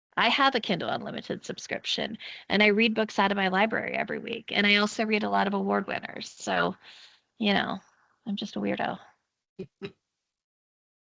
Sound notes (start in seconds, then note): 9.5 chuckling